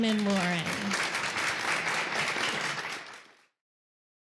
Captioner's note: applause